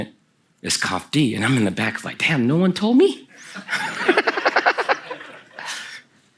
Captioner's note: Kelsey and the audience laugh